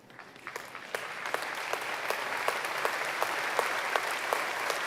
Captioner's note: applause